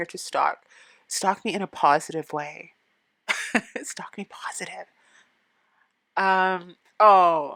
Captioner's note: nervous laughing